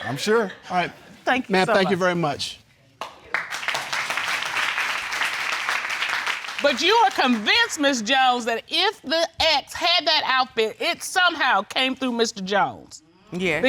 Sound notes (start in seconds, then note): 3.0 audience clapping